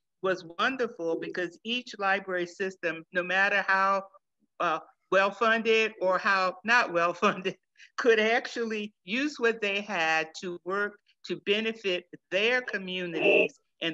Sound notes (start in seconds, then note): 6.5 chuckles